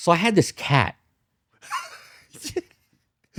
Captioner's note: laughs